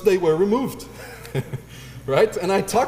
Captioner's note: laugh